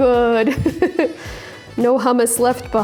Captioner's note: laughing